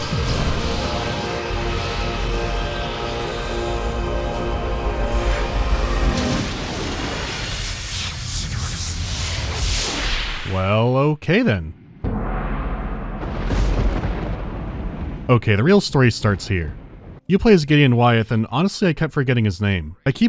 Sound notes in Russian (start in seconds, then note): 5.8 драматичный вущ-бабущ; 11.8 гром